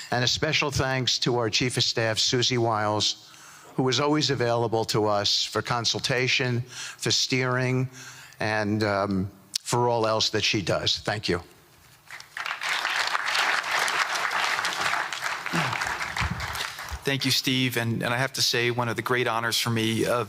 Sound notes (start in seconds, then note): 12.1 applause